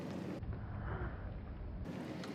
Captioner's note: sniffs intensely